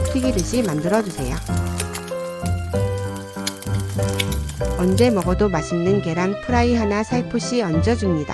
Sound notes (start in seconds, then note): 3.3 sizzling